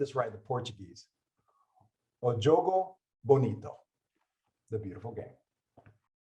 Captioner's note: speaks Portuguese